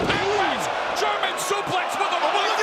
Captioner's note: crowd cheering